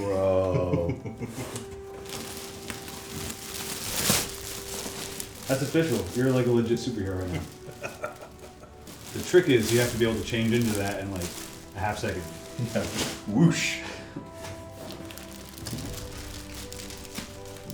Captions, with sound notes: Bro. (laughs) (wrapper crinkles) - That's official. You're like a legit superhero right now. The trick is you have to be able to change into that in like a half-second. - Whoosh. (epic music builds)